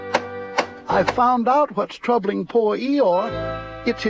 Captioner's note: knocking